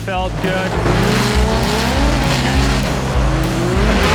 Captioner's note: engines revving